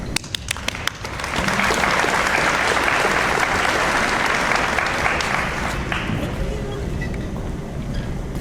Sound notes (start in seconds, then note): 0.2 audience applauds